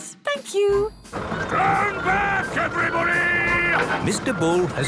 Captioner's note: shouting